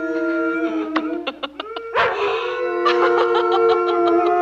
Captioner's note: all howling; dog howls